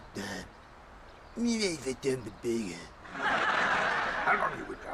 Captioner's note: audience laughing